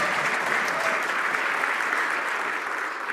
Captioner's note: applause